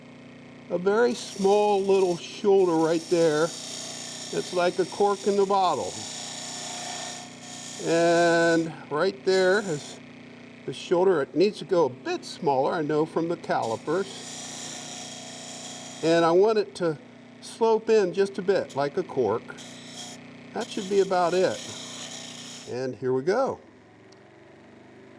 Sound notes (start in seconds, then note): 7.1 wood scraping